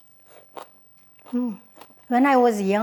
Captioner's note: vegetables crunching